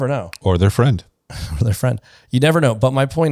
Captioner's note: laughs